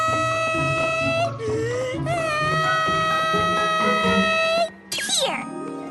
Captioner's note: gasp